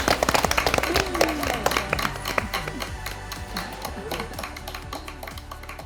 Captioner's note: indistinct chatters; all clap hands